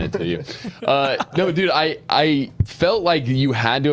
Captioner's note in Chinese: 笑声